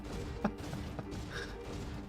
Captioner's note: laughs